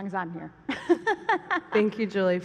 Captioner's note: laughter